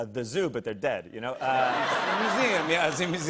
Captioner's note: laughter